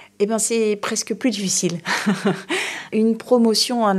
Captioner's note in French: rires